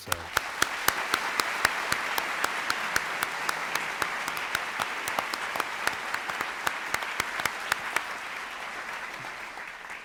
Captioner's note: applause